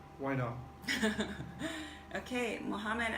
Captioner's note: laughter